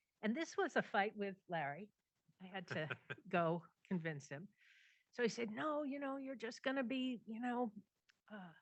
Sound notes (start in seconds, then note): 2.7 laughs